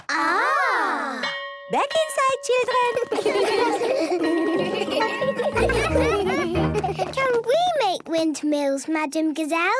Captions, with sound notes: - Ahhh. - (school bell) - Back inside, children! - Can we make windmills, Madam Gazelle?